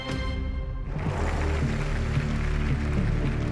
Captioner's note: applause